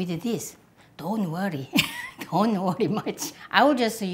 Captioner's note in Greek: γέλιο